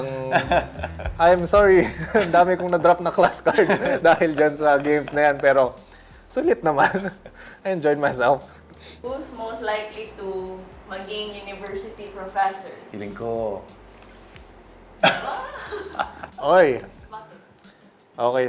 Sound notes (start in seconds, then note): 15.0 giggles